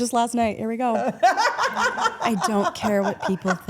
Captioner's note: Steph laughs